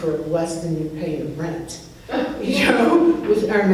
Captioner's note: laughs